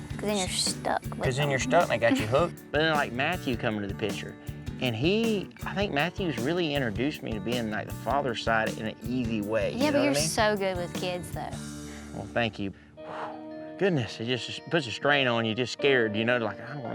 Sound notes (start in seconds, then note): 11.7 exhales